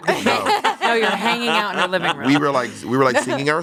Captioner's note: everyone laughs